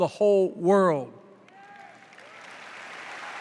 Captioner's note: applause